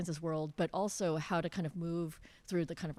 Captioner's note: none